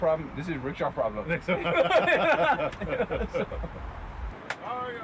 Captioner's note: laugh